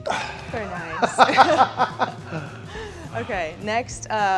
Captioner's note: Sheamus chuckles